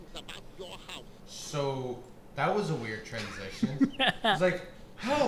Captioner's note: giggling